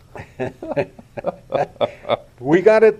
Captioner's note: laughs